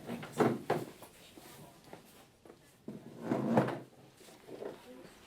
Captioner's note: soft chattering